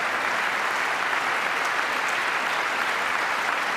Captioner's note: applause